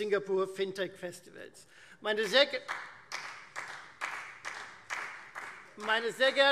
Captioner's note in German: Beifall Freie Demokraten